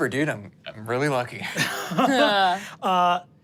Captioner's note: chuckles